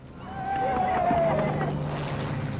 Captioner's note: cheering